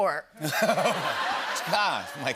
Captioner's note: laughter